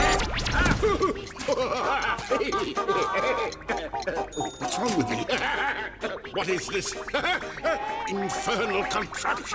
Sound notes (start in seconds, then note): 5.1 laughing; 6.8 laughing